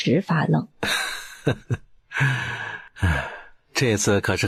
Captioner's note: laughter